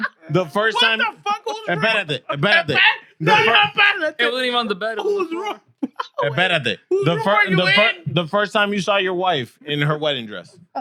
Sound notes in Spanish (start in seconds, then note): 1.7 Hablando en idioma extranjero; 6.2 Hablando en idioma extranjero